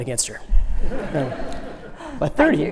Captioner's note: laughs